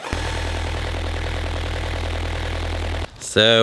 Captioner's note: engine roaring